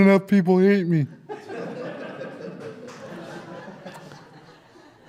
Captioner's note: audience Laughter